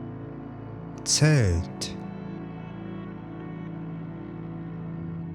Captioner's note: german